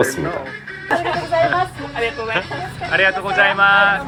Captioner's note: laughing